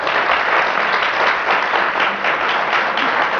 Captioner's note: applause